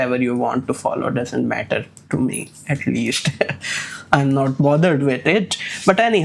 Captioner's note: chuckles